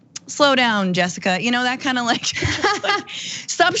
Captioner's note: laugh